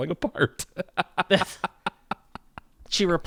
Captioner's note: laughs